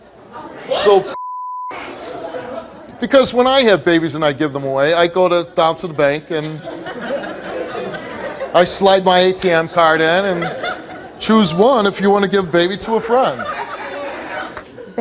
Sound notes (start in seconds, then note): 6.7 audience laughing